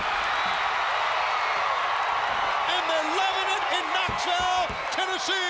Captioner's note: crowd cheering